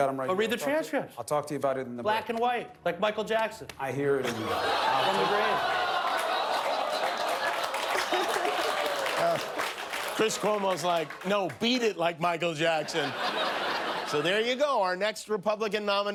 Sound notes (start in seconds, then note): 9.0 audience moaning